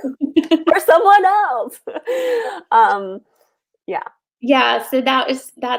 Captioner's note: laughs